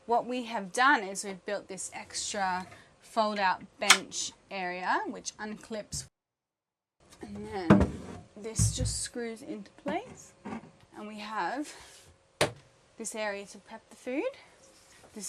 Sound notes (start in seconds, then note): none